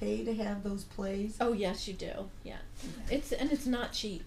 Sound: voiceover; voiceover

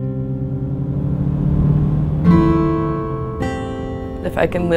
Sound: car engine revving

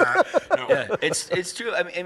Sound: laughs

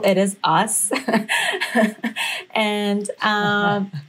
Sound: laughter

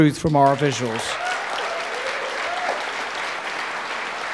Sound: audience applauding

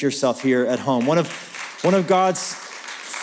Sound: applause

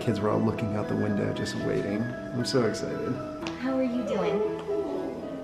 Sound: none

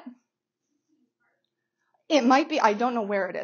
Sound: student speaking softly

